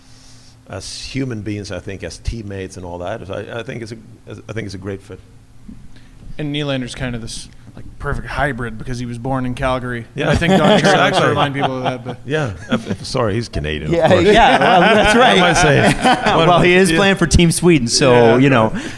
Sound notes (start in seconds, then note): 10.3 everyone laughs